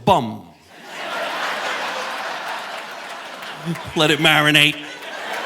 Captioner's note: audience laughing